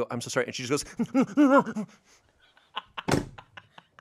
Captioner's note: moans; laughs